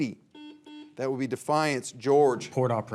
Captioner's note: signal beeps